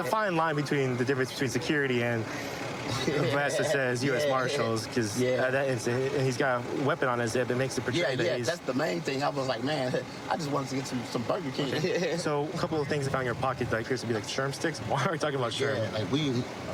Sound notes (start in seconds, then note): 2.7 laughing